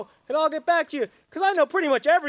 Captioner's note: none